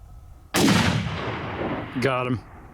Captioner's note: gunshot